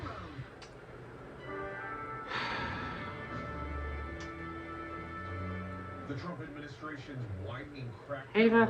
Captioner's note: "21Alive News at 11 with Amir Abass" plays